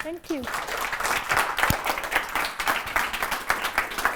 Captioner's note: applause